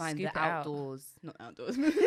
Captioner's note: both laughing